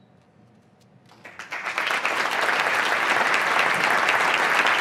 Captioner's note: applause